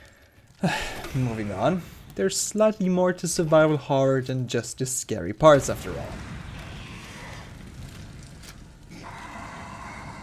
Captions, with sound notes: (sigh) Moving on, there‘s slightly more to survival horror, than just the scary parts, after all.